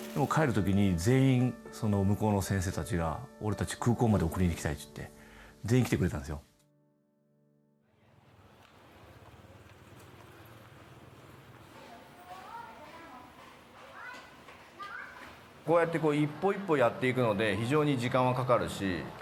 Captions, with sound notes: When we left, all the doctors came to the airport to see us off. [indistinct chatter] I know that this approach takes a lot of time.